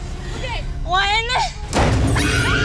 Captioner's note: thud